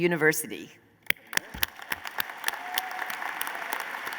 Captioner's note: applause